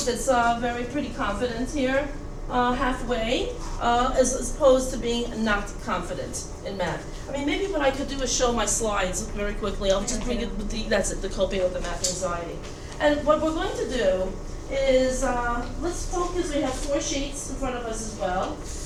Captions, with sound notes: that's very pretty confident here, halfway, as opposed to being not confident in math. I mean, maybe what I could do is show my slides very quickly. I'll just (stutters) that's the coping with the math anxiety. And what we're going to do is, let's focus, we have four sheet in front of us as well.